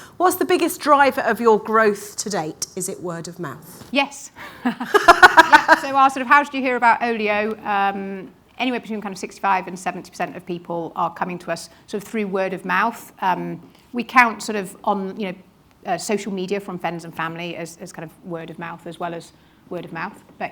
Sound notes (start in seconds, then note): 4.7 laughs; 4.8 announcer laughs